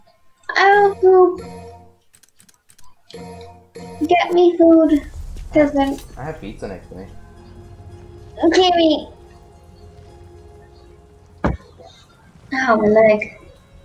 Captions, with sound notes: I want food! Get me food... peasant I have pizza next to me gimme T-T *bonk* ow, my leg